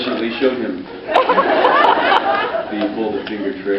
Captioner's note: laughs